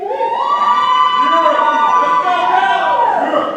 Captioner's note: audience cheers